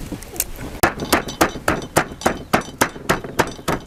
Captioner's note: pounding garlic